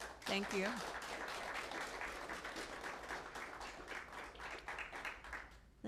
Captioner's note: applause